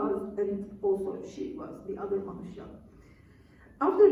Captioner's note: non-english speech